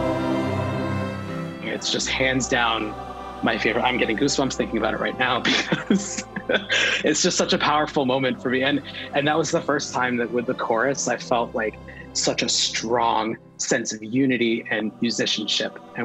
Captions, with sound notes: (orchestral music continues) Its just hands down my favorite! I'm getting goosebumps thinking about it right now, because (laughter) it's just such a powerful moment for me, and that was the first time, that with the chorus, I felt like, such a strong sense of unity and musicianship.